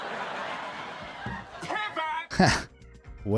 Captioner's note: audience laughing